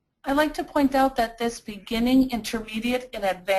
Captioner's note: voiceover